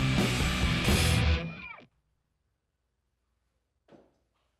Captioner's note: music stops